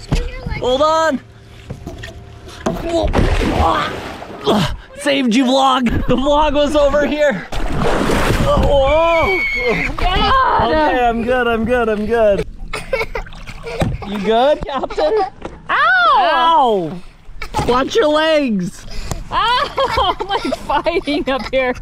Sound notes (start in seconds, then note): 2.5 dad grunts; 2.6 water splashes; 8.6 screams; 12.6 laughing